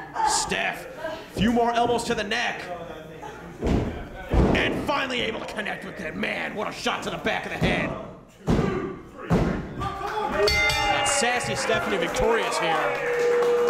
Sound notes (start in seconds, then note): 10.4 bell ringing